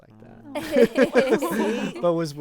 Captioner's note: group laughing